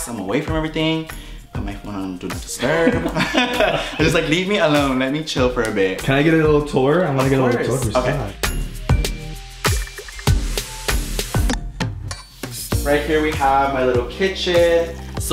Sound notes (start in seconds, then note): 2.1 speaking in foreign language; 8.6 bright music